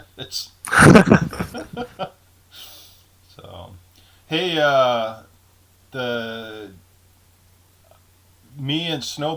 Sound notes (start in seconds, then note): 0.6 laughing